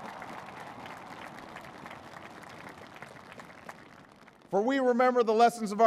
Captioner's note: applause